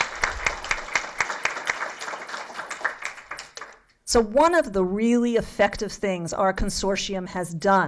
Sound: applause

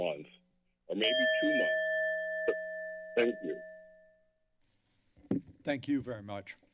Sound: bell rings

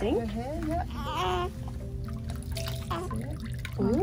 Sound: baby grunts

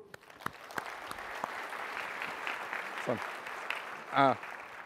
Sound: applause

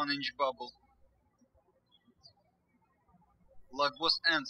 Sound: birds chirping

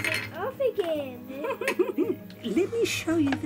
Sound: laughing

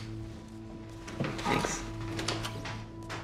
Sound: door opens, closes

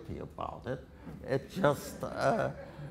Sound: audience laughter

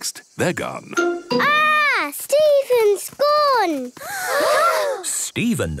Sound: gasps

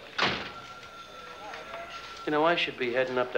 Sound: phones ringing

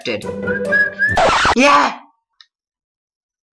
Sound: whistling, stops by and gets amazed/shocked

